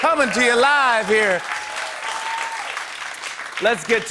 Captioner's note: cheering and applause